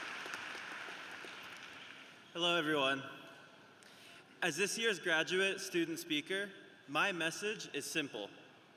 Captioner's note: applause